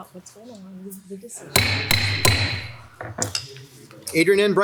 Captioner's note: gavel taps